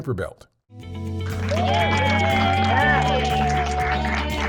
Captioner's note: cheers and applause